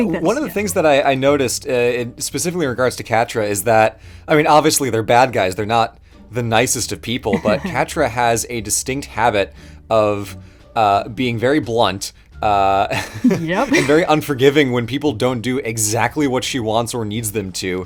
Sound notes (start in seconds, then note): 7.3 laughs